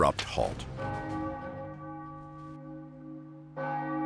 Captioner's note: bell tolls